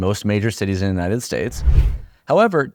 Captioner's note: air whooshes